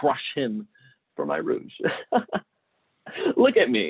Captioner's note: laughing